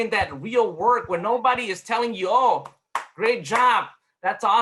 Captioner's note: claps